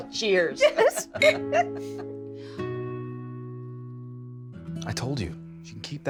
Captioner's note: Betty and Charlotte laughing; glasses clinking